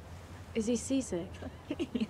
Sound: chuckles

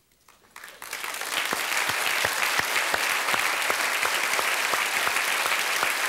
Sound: applause

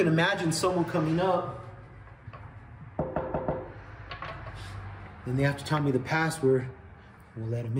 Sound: knocking

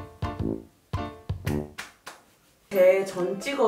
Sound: slap!

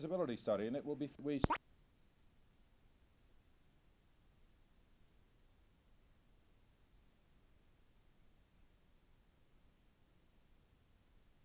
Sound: cut/silence; recording mute

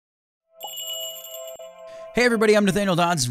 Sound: magical jingle

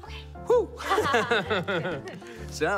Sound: laughing

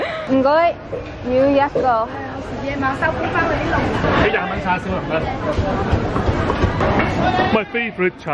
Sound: conversations in Cantonese

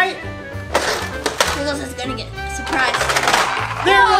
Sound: laughs

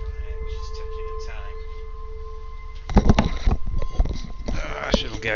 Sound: headphones being roughly picked up and placed on head

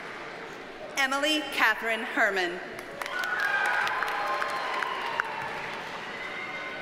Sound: audience cheers and applauds

